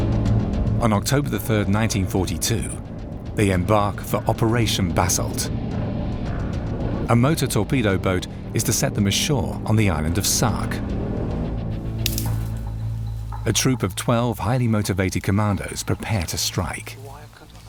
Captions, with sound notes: On October the third, 1942, they embark for Operation Basalt. (boat buzzing) A motor torpedo boat is to set them ashore on the island of Sark. (intense music) A troop of 12 highly motivated Commandos prepare to strike.